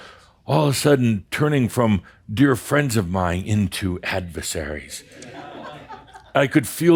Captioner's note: some chuckles